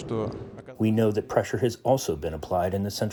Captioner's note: through translator